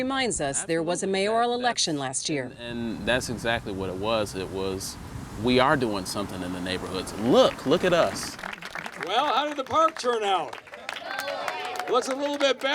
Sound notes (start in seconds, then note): 9.6 applause